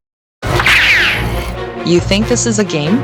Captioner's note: growling